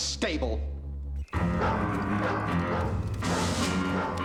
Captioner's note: dog barking